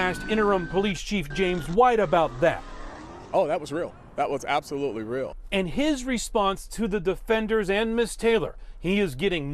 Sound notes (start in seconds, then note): 3.7 siren